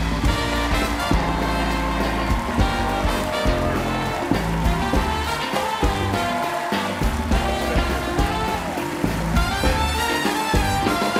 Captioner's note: applause